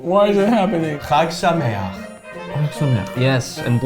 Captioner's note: in foreign language